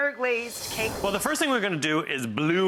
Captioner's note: woosh